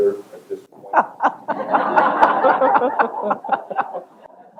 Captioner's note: laughter